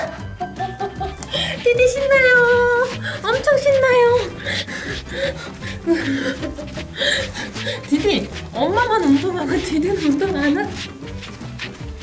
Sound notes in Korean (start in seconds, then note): 0.0 웃음; 4.4 웃음; 11.3 웃음